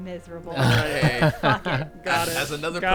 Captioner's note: group laughing